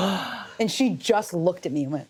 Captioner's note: gasps